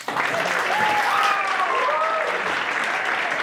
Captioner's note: audience applauds